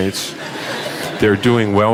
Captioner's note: laughter